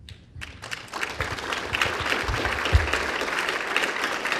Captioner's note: applause